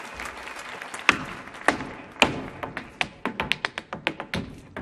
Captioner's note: audience applauding; boots stomping